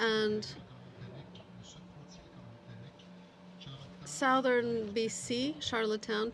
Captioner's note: speaking French